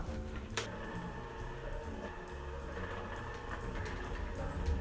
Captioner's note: mixer whirring